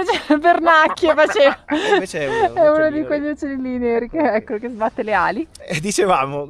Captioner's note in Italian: risate